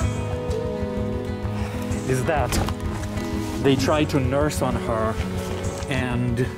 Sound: sigh

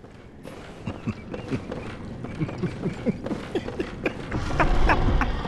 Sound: laughs

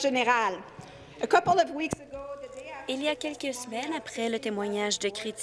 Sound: speaking in French

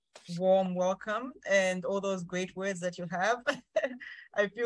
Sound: laughs

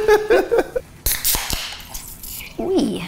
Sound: laughing; cracking, fizzing

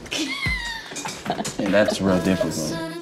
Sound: laughing

